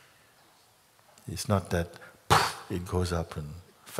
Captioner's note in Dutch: poef!